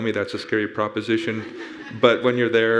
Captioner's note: audience laughing